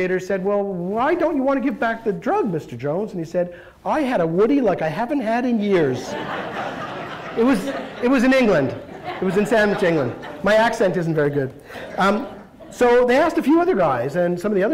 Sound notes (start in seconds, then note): 5.7 laughter